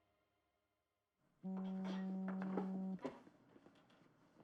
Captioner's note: phone vibrating